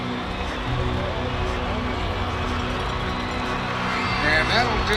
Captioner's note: cheering; radio Announcer